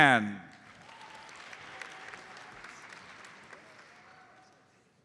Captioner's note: audience applauds